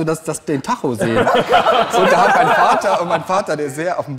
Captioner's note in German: Lachen